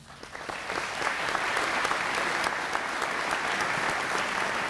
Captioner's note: applause